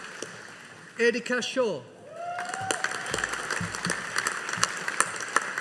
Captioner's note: audience applauding